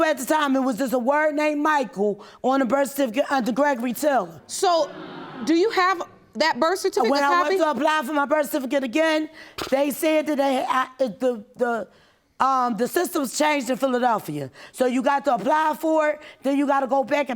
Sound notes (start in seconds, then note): 12.0 stammering